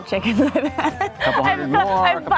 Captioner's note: chuckles